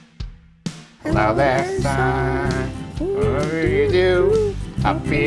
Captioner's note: hums and mummbles